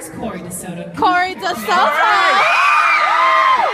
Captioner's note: audience cheers